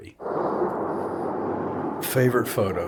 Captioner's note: jet engines